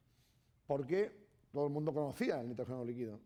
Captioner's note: speaking spanish